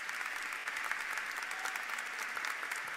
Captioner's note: applause